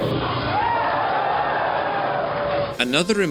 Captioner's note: crowd cheering